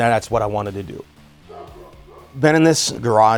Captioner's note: dog barking